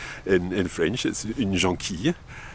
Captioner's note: speaks in foreign language